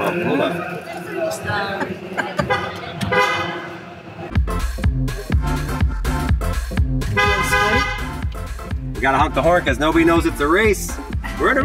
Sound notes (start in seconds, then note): 2.4 horn honking; 4.2 upbeat music; 7.0 horn honking